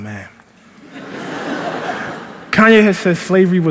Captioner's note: laughter